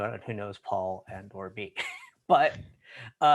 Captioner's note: laughs